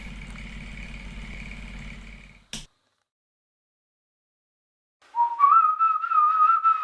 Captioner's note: projector turns off